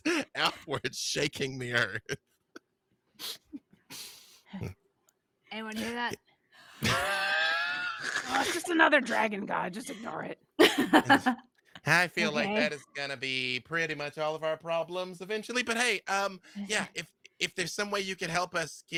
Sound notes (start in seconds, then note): 1.6 laughs; 6.8 laughs